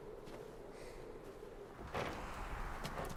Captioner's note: wind howling; door creaks open